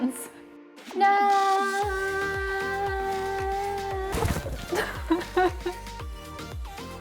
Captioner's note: laughter